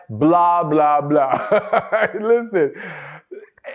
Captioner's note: laughs